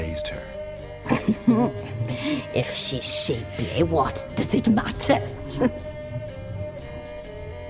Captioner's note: mischievous chuckle